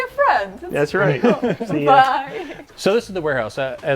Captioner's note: laughs